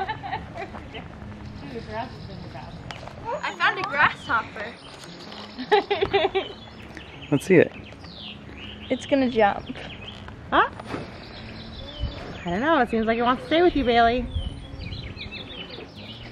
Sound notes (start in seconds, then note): 0.0 laughs; 5.6 laughs